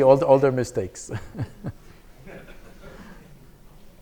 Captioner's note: chuckling